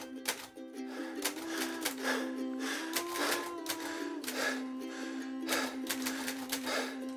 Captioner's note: labored exercise breaths